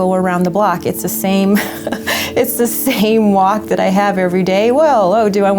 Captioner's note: laughter